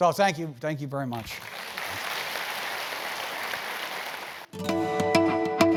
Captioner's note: applause